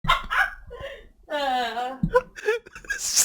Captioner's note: laughing it up